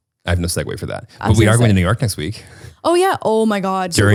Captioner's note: laughs